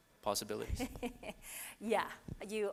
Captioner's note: laughing